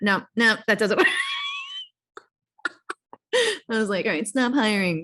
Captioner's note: laughs